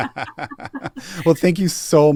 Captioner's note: laugh